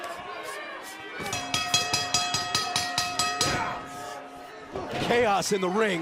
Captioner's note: bell ringing